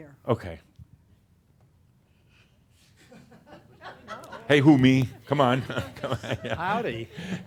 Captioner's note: laughs